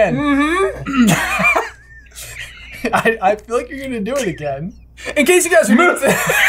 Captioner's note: laughter; laughter